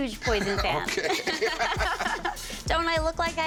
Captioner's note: both laugh